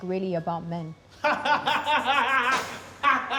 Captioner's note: laughing